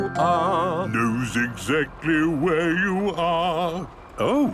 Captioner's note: mimicking tune